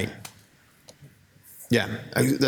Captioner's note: speaking faintly